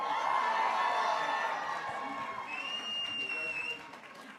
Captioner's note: graduates cheering